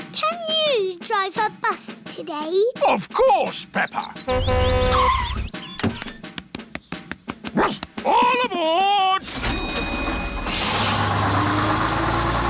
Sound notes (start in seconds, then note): 4.2 honks and brakes; 7.5 barks; 9.2 rings bell